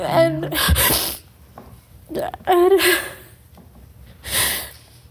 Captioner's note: sobbing